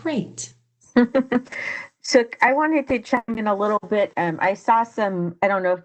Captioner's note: laughs